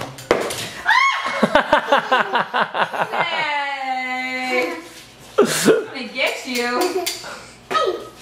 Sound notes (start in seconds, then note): 0.8 mom screams; 1.0 laughing